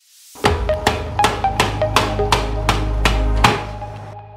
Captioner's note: hammering sound